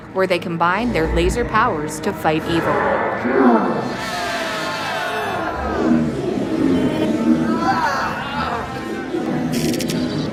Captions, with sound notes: where they combine their laser powers to fight evil. [ROARING AND LASER EFFECTS]